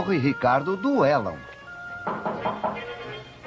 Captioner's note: knocking